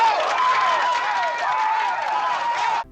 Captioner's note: screams